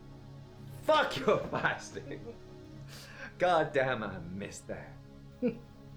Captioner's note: Captain Brookes giggles